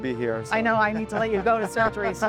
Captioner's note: laughing